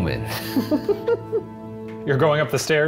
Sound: all laugh

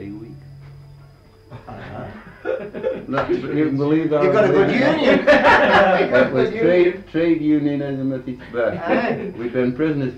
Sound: laughter

